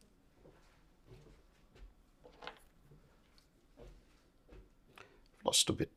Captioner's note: silence